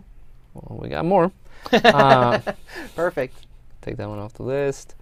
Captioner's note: laughs